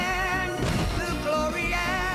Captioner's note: thud